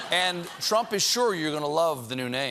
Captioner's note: laughter